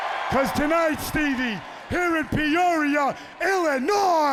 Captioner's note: crowd cheering